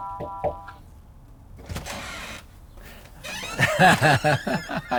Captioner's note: doorbell ringing; knocking on door; laughs